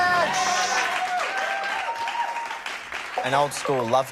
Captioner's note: cheering and applause